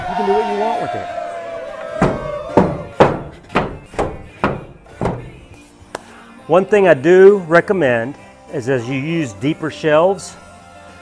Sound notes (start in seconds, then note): 0.0 crowd cheering; 3.6 wood banging